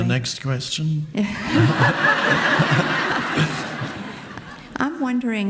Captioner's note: audience laughing